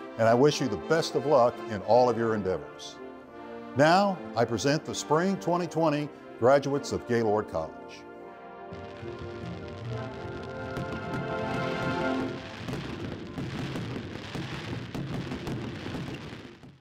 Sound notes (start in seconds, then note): 8.1 inspirational music; 8.7 fireworks shooting